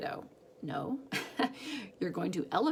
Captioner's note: laughs